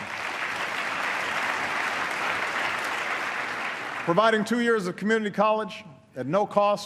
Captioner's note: applause